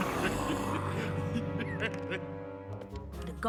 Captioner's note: growling; chuckles; laughs